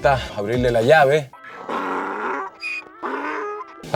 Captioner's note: donkey sounds